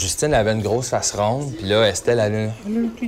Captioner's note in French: voix ludique